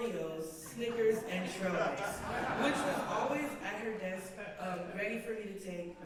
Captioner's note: laughter